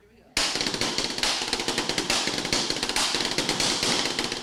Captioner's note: table beating